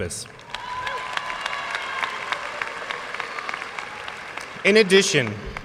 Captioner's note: audience cheers and applauds